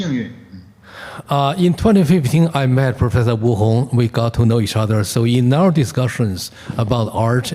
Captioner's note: translating in Mandarin